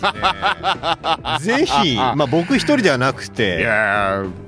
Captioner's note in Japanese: 笑い